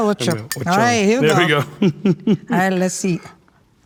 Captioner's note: chuckles